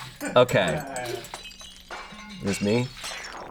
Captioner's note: objects clanking